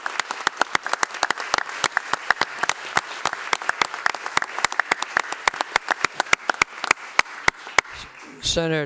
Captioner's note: applause